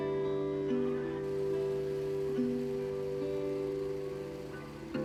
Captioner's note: snowblower whirring